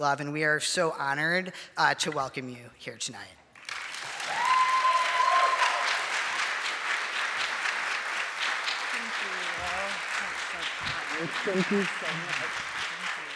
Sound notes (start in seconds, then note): 3.6 audience cheering and applauding